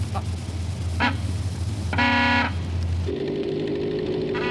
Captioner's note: car horn